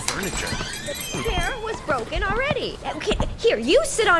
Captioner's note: something glass shatters